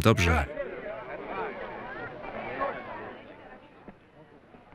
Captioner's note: crowd chattering